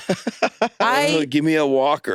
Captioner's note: laughs